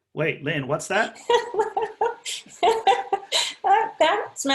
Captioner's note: laughter